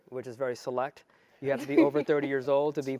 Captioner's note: laugh